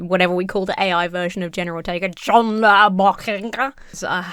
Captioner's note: speaks gibberish